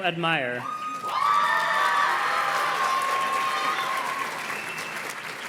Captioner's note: audience cheers and claps